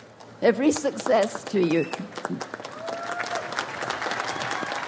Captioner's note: audience applauds